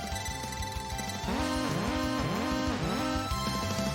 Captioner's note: alarms